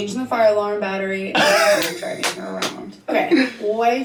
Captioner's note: hysterical laughing